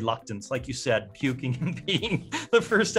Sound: laughs

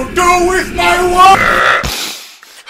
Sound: uuuurp

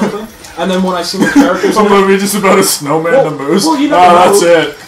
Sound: laughs

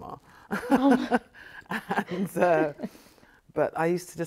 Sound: both chuckle

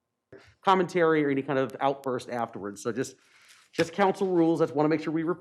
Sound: audio cutting in and out

